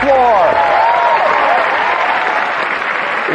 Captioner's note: all cheering